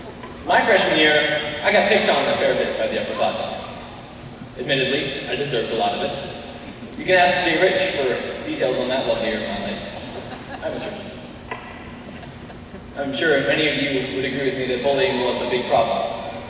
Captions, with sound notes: My freshman year, I got picked on a fair bit by the upperclasmen. Admittedly, I deserved a lot of it. You can ask J-Rich for the details on that lovely year of my life. [laughter] Hi, Ms. Richardson! I'm sure many of you would agree with me that bullying was a big problem.